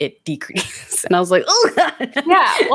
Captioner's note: laughs